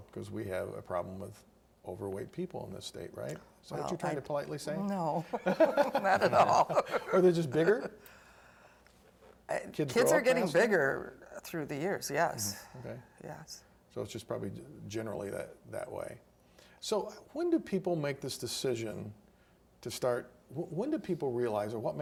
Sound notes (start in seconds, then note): 5.2 laughing